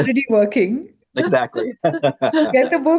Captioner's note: chuckles